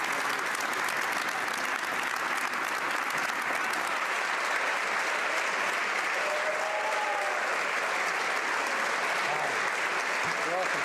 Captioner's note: applause